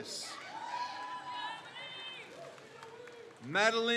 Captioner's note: crowd cheers